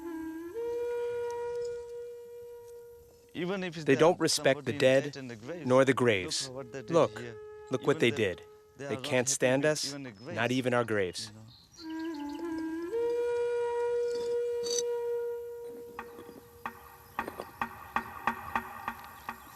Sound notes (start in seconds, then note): 15.5 birds chirping